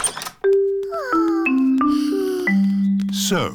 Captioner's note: peppa and george sigh